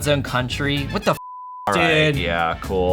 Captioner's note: beep